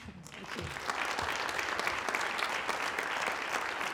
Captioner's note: applause